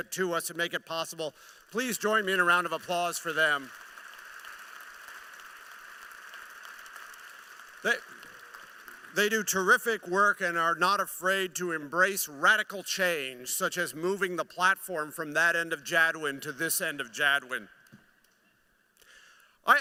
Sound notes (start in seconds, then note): 5.2 applause